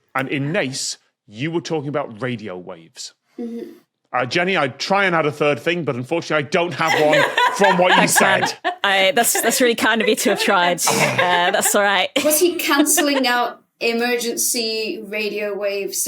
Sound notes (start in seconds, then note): 10.6 groans